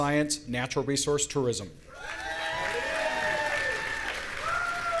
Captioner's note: audience cheering